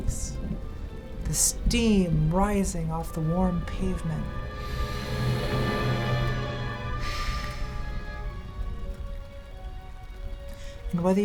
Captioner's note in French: reniflement